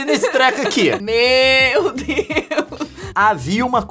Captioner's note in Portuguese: risada